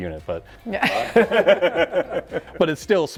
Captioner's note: laughing